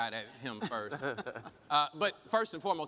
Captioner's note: chuckle